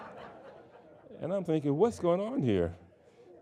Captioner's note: audience laughing